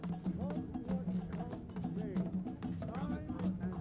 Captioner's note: indistinct chatter